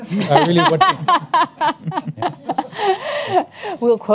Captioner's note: laughs